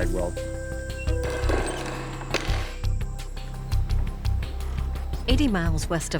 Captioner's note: door creaking